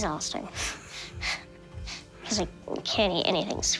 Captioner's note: chuckling